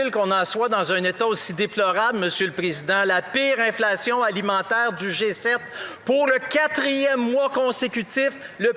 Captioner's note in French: voix de l'interprète